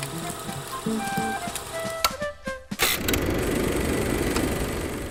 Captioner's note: projector clicking; upbeat music